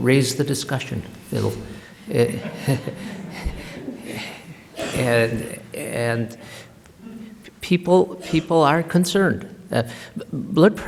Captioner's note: laughter